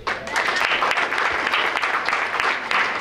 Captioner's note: applause